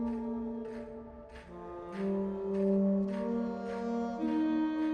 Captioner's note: distant banging